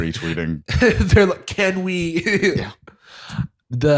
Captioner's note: laughing